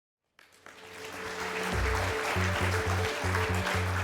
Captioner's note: applause